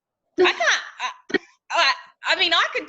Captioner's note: laughing